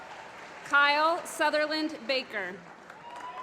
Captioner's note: applause